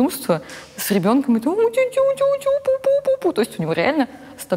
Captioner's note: makes cute noises